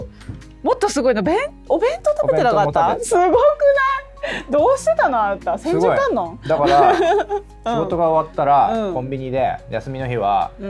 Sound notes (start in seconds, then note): 6.5 laughs